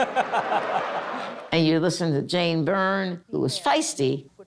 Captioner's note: laughing